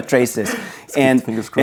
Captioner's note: laughing